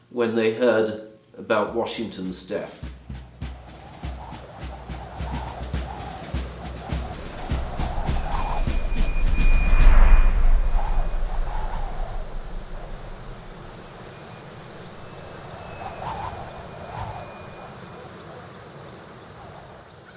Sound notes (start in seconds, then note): 3.0 drums beat; 10.6 wind blows